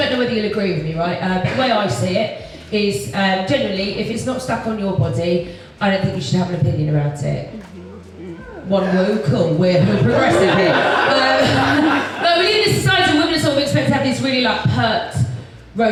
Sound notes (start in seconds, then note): 7.5 audience murmurs; 9.9 audience Laughs